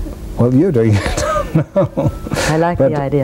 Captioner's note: laughs